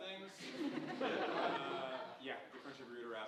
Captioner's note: audience laughing